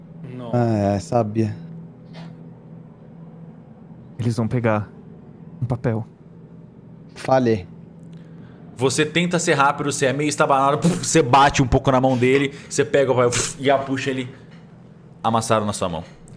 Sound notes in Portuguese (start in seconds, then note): 13.3 pff; 13.3 pfft